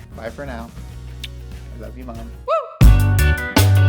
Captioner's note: kisses; upbeat music